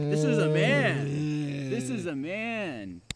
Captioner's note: Keith groaning